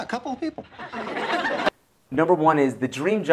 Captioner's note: laughter